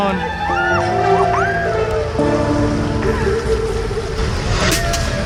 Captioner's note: cheering from crowd